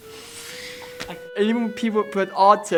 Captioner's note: inhales sharply